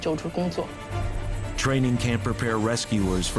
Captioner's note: none